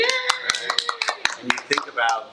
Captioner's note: attendees applauding